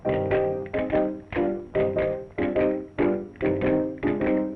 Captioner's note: bones clicking